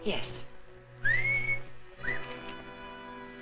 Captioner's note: he whistles